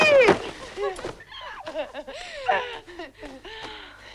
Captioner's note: both laughing